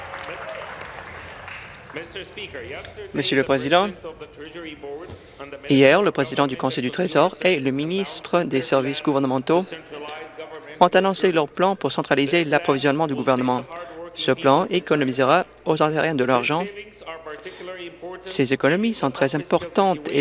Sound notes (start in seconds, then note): 0.0 applause; 2.9 cheers